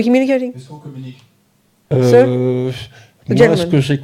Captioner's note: speaking in French